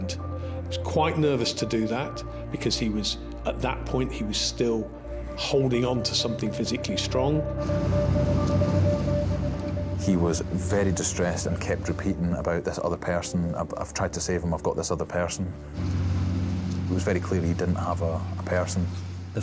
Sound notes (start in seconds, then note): 7.6 lifeboat engine whirring; 15.6 lifeboat engine whirring